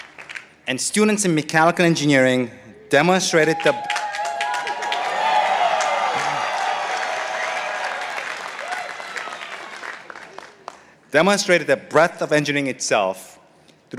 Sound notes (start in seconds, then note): 2.9 participants cheering